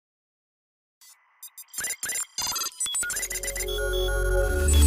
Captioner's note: robot beeping; bright music